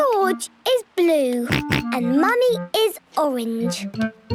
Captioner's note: George snorts; snorts